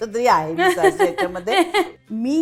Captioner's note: fake laughter